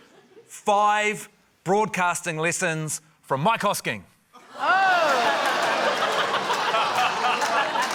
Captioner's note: laughter, scattered applause